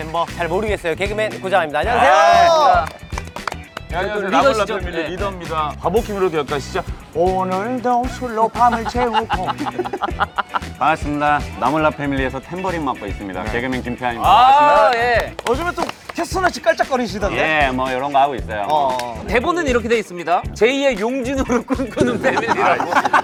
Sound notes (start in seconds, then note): 8.5 laughing